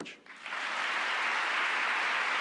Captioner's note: applause